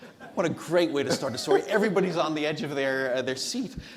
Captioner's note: everyone laughs